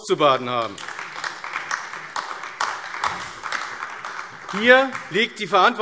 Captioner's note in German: Beifall AfD